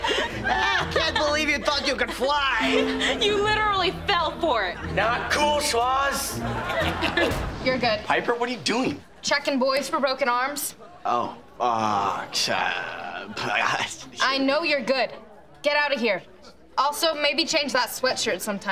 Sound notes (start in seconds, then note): 6.3 laughing; 11.9 stammering